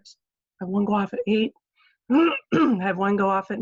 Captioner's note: clears throat